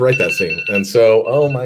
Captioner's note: phone rings